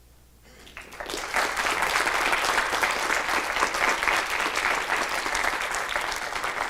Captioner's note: clapping